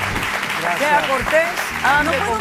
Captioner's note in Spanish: Aplausos